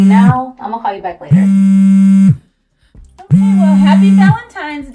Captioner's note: phone buzzing